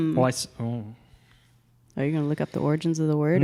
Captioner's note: none